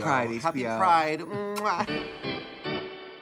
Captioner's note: kisses